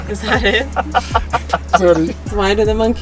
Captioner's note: everyone laughing amusingly